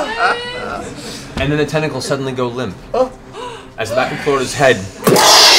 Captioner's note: laughter; gunshot